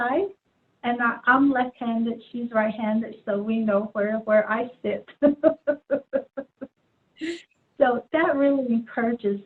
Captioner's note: laughs